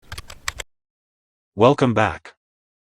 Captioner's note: typing